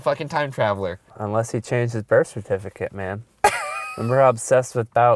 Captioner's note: voiceover